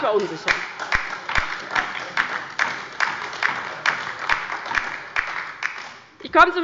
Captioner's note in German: Heiterkeit und Beifall bei der LINKEN sowie bei Abgeordneten der SPD